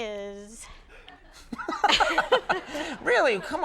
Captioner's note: all laughing